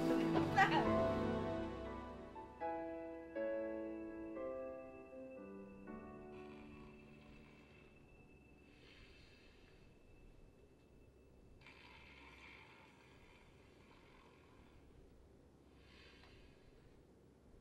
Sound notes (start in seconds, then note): 5.9 snoring